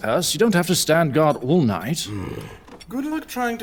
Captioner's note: Loam grunts